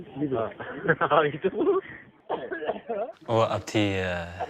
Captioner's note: tigrinya spoken audio